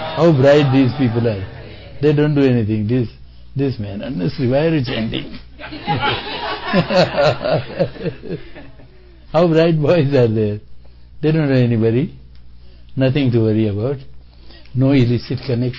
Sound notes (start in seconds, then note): 5.6 laughter